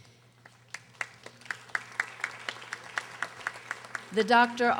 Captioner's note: audience applauding